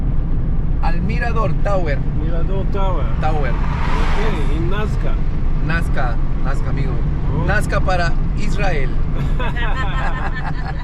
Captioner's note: Spanish